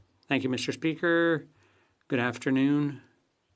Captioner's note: speaking French